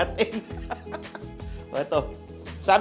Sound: laughs

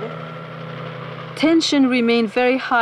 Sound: resident speaking in foreign language; helicopter blades chopping

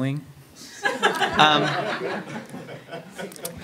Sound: crowd laughs

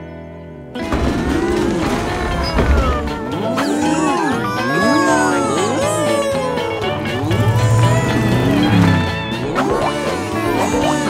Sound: mooing

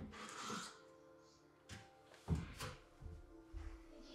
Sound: family chattering

